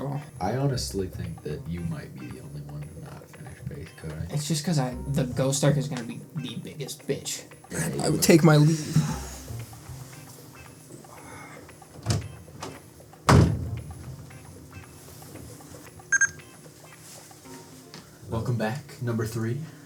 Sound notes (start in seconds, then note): 16.0 bebeep